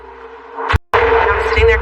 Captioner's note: gunshot